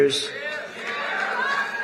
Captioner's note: applause